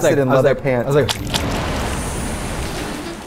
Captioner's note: blood spurting; sultry music